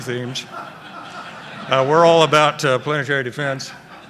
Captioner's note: laughter